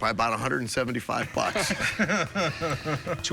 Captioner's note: laughter